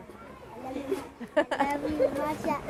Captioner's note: laughter